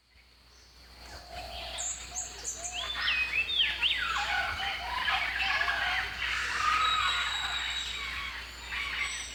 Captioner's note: birds chirping